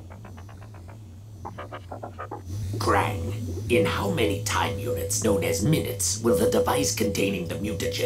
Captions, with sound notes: [robot noises] Kraang, in how many time units known as minutes, will the device containing the mutagen that will be